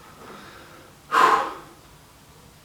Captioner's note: exhales